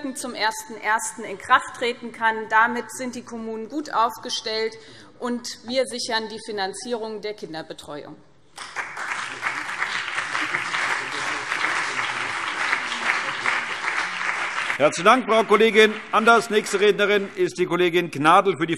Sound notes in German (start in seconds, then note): 8.5 Beifall BÜNDNIS 90/DIE GRÜNEN und CDU